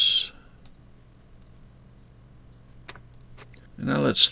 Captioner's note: mouse clicking